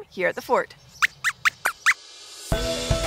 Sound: squeaks squeaks

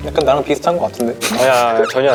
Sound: burst out in laughter

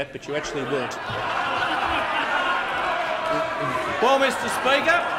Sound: laughter

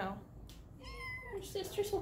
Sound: mew

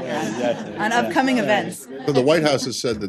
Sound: laughter

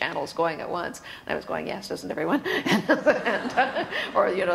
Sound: laughs

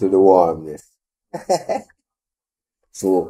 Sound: laughing

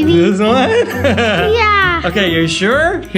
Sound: laughs

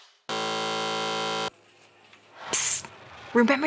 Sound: buzzer beeps

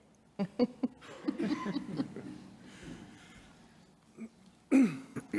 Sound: board members chuckling

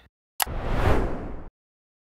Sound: click Whoosh

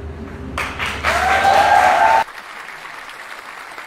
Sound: applause

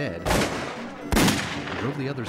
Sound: guns firing

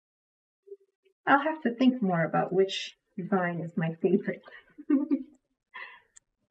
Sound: laughs

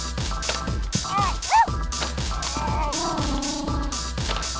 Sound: dog barking; dog growling

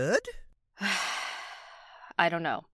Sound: deep breath

